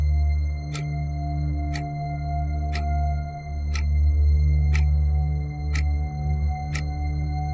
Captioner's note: eerie gentle music continues; clock ticking continues